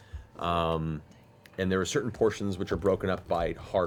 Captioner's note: quietly